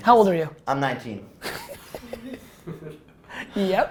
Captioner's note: laughter